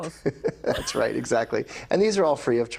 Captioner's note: laughing